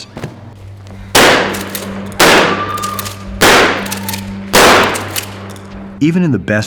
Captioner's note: gunshots, screams